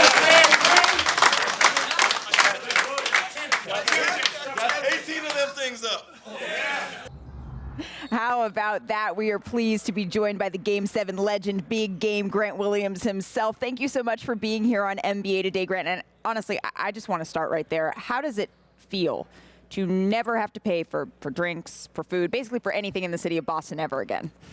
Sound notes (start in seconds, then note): 6.7 applause